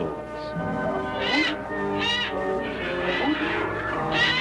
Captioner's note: birds cawing